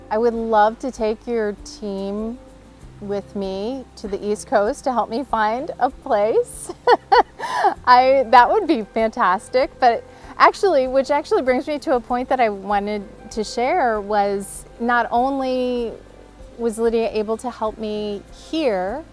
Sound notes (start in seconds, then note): 6.6 laughs